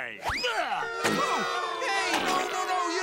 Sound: booing

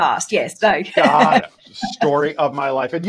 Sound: laughs

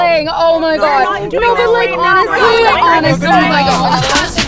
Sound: indistinct chatter

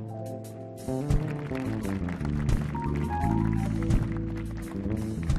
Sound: audience applauding

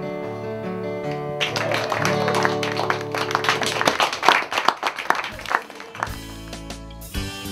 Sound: clapping

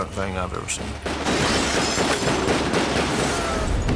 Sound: gunfire

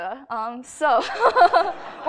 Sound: laughs; laughter

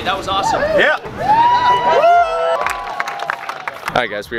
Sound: crowd Cheering

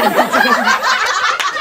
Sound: audience laughs

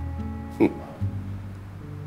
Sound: chuckles

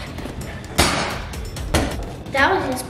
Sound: ball bounces

